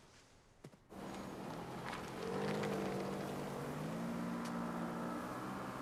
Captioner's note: car engine whirring